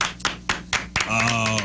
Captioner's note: applause